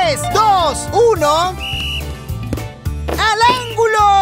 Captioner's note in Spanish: Sonido de silbato